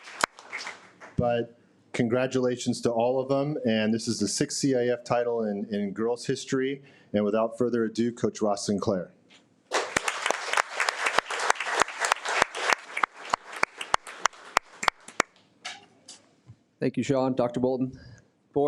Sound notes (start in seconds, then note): 9.7 audience applauding